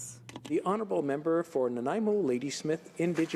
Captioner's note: speaking French